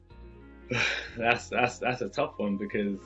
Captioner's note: chuckles